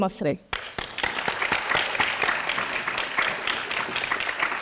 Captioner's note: everyone applauding